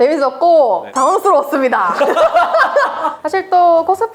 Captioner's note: laughs